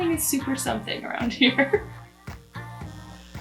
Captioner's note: laughs